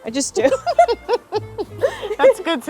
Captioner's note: laughing